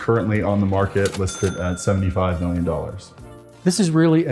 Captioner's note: register rings